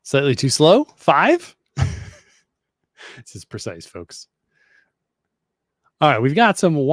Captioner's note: laughs